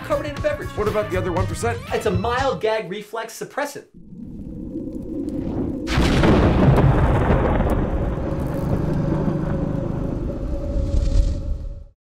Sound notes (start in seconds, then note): 5.3 thunder, growling noises